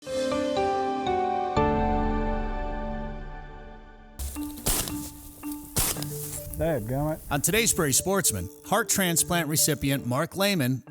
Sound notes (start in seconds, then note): 0.8 gentle music; 3.8 gunshot pops